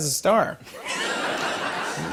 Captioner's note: laughter